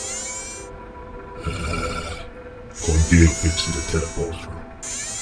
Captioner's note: groan